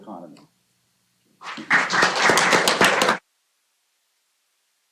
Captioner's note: applause